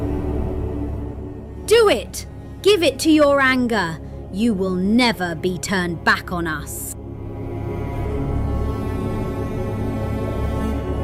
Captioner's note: shouted